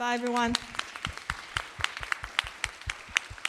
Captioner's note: applause